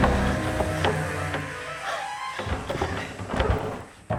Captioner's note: dramatic music; door banging